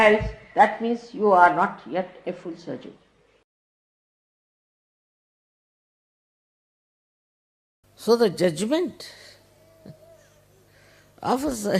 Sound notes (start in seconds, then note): 9.8 laughing